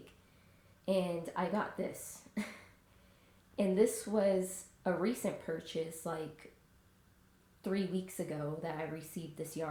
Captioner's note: sigh